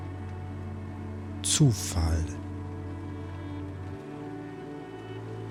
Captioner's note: german